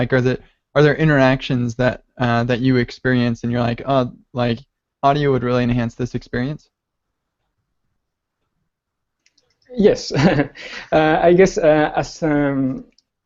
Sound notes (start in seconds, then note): 10.4 laughs